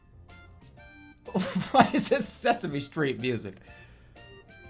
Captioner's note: laughing